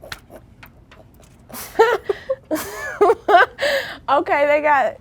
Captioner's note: laughing